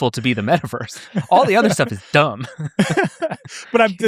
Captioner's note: laughing